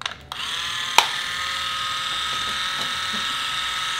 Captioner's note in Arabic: الطنين الطوقان